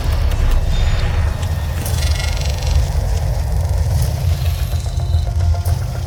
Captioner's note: glitching intensifies